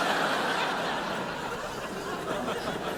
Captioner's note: crowd laughs